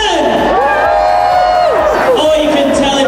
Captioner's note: crowd noise; wooing